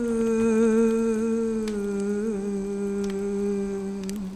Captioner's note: humming continues